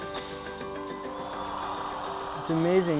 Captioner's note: cheers and applause